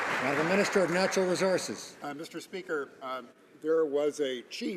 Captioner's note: some Applause